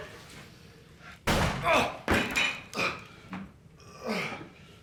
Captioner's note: gun bangs